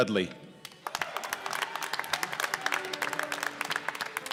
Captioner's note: applause